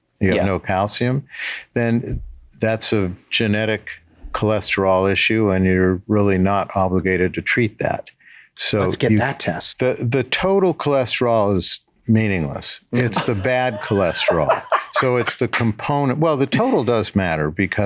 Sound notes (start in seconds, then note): 12.9 Glenn laughing